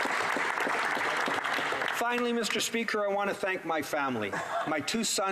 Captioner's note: some Applause